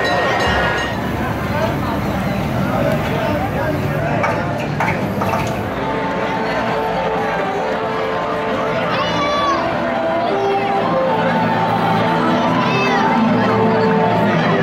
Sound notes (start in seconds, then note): 0.2 car sputtering and stalling, attempting to restart engine